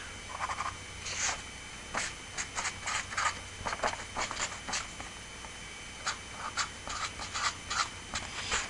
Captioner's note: writing